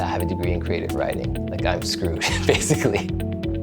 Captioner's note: chuckles